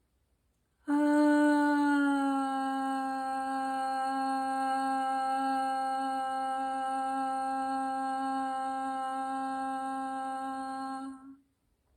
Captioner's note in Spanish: suspiro y tono